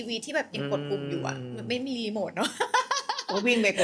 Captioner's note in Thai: เสียงหัวเราะ